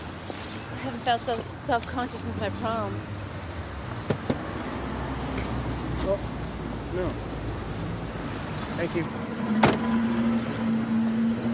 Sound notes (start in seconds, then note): 9.5 door closes